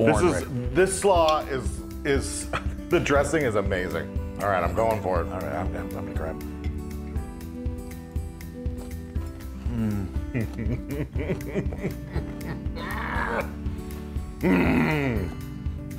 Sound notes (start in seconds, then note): 10.2 laugh